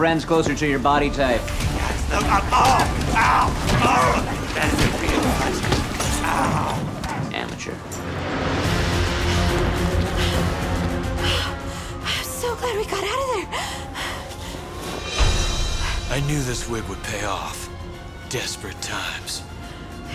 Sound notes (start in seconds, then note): 2.0 grunting; 10.9 heavy breathing